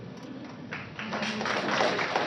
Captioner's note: applause